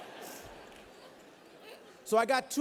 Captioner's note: laughter